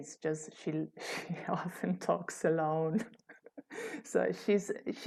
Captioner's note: laughter